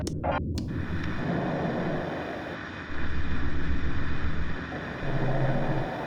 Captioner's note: static plays